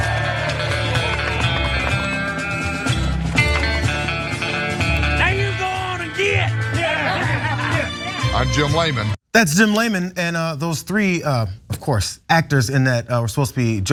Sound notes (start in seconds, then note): 0.0 applause; 7.0 laugh